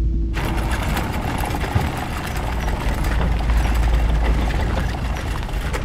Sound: rattling sound

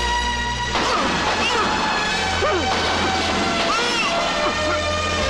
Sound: gunshot

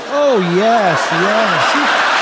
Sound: applause

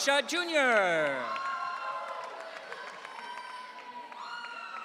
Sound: audience cheering

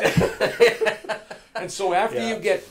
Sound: laughing loudly

